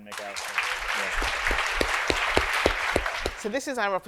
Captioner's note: audience applauds